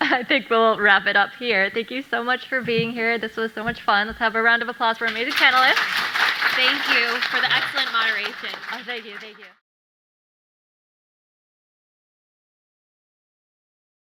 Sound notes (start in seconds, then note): 5.0 audience applauding